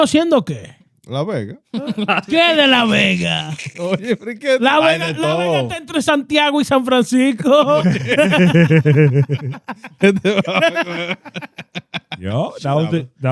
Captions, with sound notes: Las Vegas. (Laughing) (Speaking In Foreign Language) (Laughing) Yo, that was it.